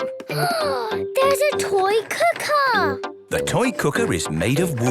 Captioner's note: gasps